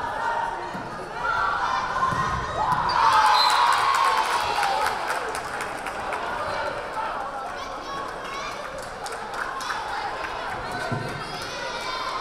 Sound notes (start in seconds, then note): 2.9 crowd cheering; 3.3 whistle blaring